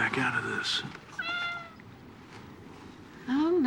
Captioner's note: meowing